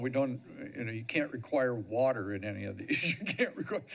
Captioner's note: chuckles